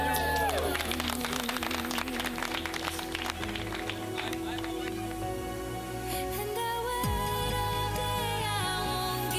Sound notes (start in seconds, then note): 1.6 cheering and clapping